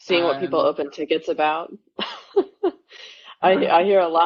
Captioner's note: laughs